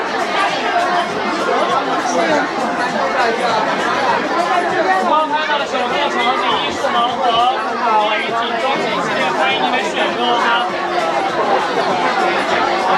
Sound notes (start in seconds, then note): 8.9 crowd chattering; 11.9 crowd chattering